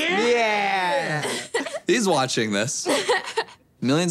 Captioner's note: laughing